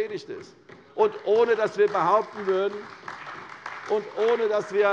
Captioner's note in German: Beifall bei der CDU und dem BÜNDNIS 90/DIE GRÜNEN